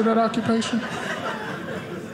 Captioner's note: audience laughing